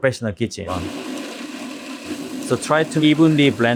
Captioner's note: blender whirring